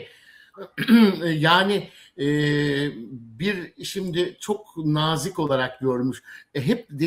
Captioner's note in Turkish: boğazını temizler